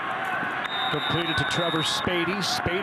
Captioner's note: referee blows whistle